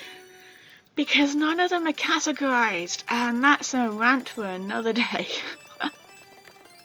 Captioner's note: laughs